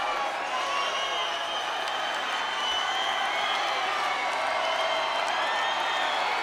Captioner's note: audience applauds and cheers